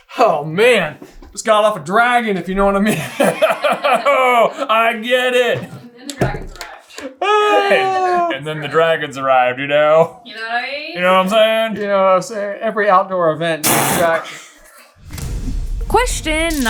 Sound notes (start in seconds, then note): 2.8 laughter; 13.6 face fart